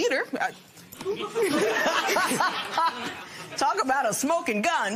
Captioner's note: laughter